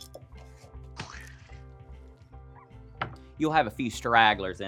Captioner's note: pumpkin squelching